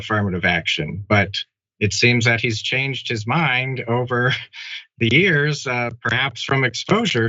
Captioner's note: laugh